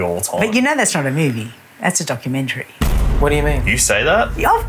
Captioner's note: bang